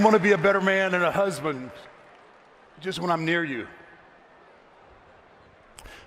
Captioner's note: applause